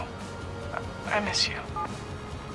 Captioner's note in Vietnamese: bíp